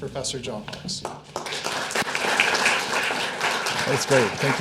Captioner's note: attendees applauding